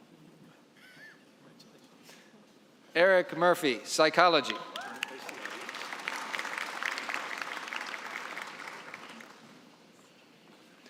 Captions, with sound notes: Eric Murphy, psychology. (applause)